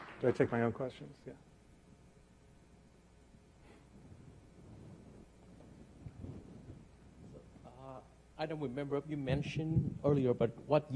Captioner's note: clapping